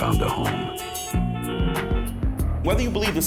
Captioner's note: horns honking